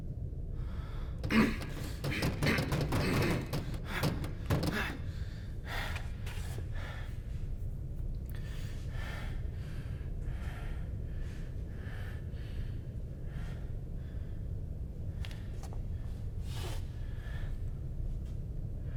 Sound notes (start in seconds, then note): 1.4 Keith grunting; 8.4 heavy breathing